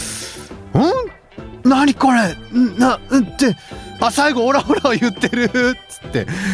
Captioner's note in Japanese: 笑い